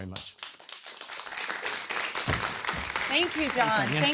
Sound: applause

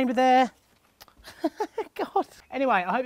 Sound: laughs

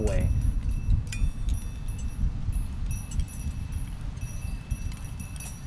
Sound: wind chimes tinkling softly

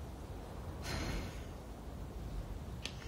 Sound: exhales

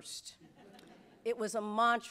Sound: audience laughs

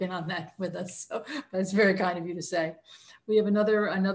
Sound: chuckles

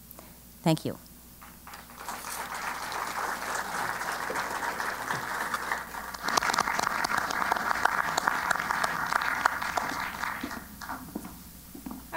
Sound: applause

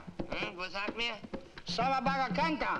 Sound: Rakos speaking in foreign language; speaks gibberish; Rakos speaking in foreign language

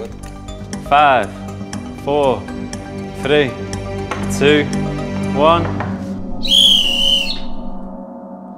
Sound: whistle blows

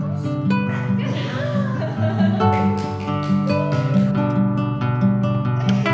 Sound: laughing, clapping

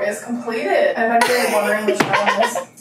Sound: laughing

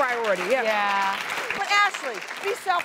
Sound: audience applauding

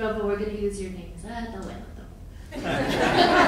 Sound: speaking in foreign language; audience laughing

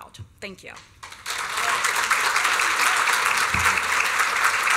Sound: applause

